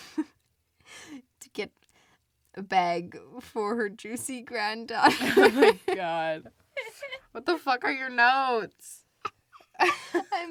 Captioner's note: laughs; laughs; laughs